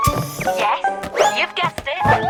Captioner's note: door whirrs